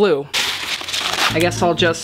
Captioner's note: wax paper rustling